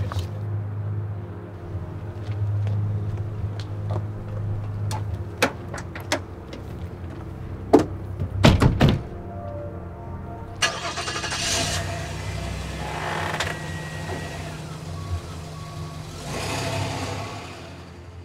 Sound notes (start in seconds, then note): 7.7 doors closing; 10.6 engine starting